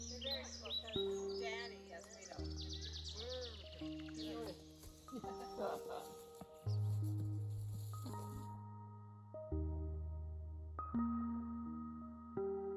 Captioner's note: forest sounds--birds chirping